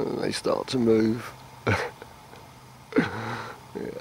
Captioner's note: laughs